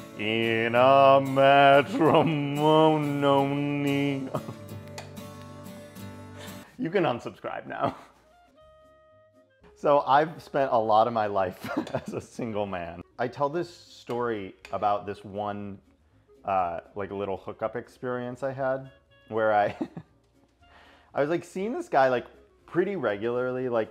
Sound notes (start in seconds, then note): 4.0 chuckles; 19.7 laughs